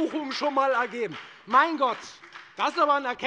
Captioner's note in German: Beifall bei der FDP